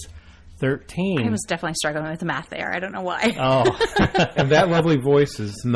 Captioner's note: laugh